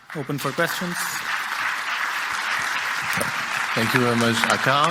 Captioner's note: crowd clapping